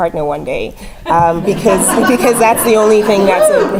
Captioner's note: laugh